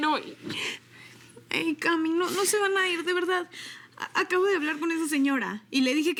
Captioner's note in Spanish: Sollozos